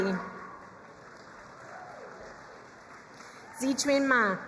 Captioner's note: crowd cheering and applauding